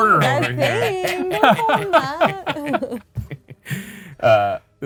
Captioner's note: group laughing